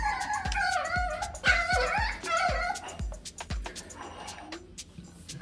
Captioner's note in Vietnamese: tiếng sủa